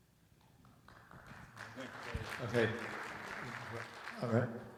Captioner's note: audience applauds